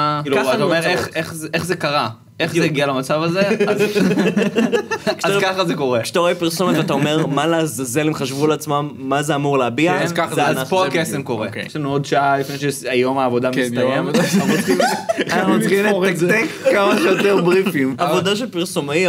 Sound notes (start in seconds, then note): 3.6 snickers; 14.1 laughs